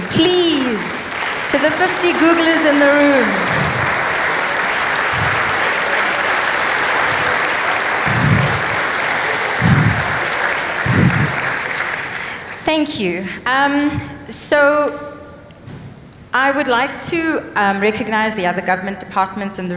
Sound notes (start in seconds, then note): 3.3 applause